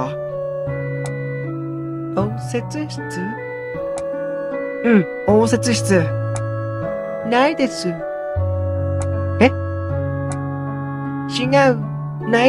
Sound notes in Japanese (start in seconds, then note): none